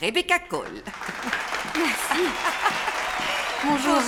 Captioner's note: applause; laughing